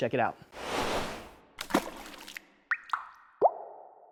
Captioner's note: splashing